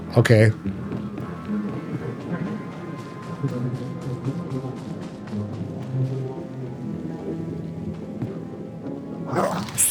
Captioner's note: sirens